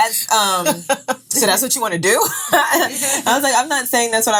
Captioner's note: laughing